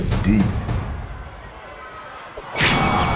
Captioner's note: upbeat drum music; audience chattering; dramatic thudding